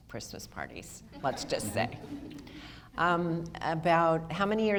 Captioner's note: audience laughter